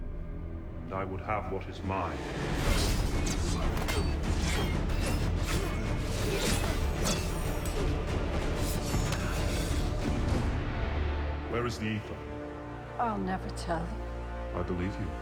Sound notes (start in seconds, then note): 2.3 both grunting